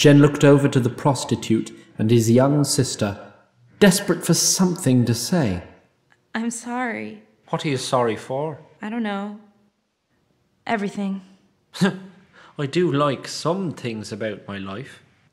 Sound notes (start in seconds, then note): none